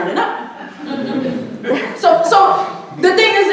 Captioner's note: audience chuckling